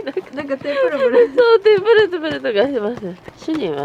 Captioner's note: laughter